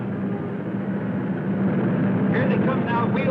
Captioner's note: cars whirring